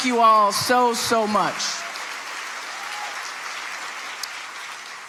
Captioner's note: audience applauding